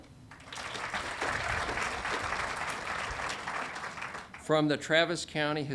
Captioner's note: audience applauding